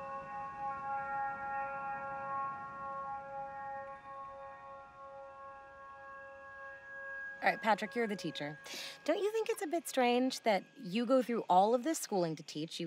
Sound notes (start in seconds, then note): none